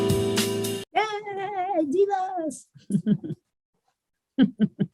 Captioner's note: laughs